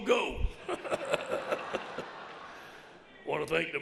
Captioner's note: audience laughs